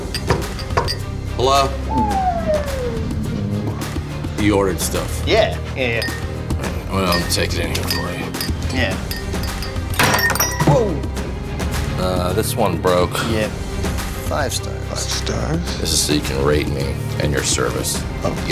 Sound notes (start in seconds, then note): 0.0 knocking; 1.9 whirring; 9.0 crashing